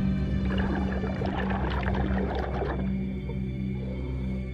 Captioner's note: air bubbles flutter; pensive music continues